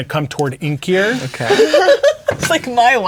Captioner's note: laughing